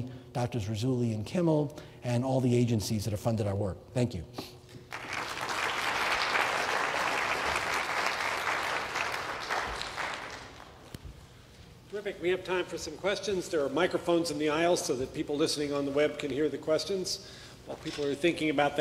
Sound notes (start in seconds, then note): 7.1 applause